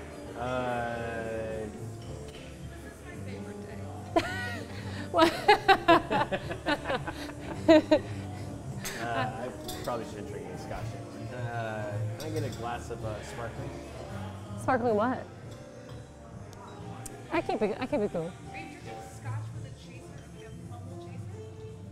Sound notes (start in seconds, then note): 4.1 laughs